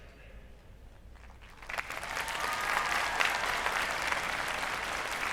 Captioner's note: applause